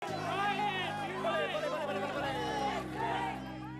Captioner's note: reporters clamoring